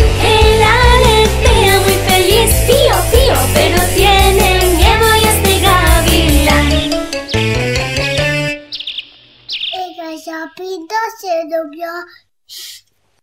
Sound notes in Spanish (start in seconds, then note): 6.5 Sonido de pájaros